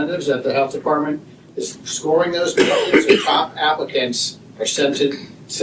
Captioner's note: cough and laughter